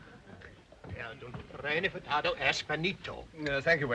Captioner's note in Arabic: رودولف يتحدث لغة أجنبية